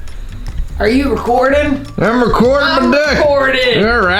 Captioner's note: western voice